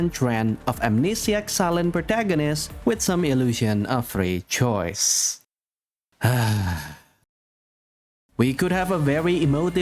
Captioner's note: massive sigh